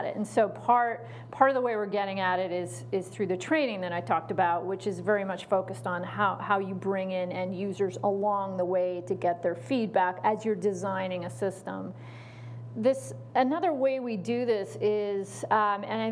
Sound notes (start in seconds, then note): none